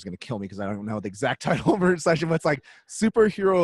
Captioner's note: laughs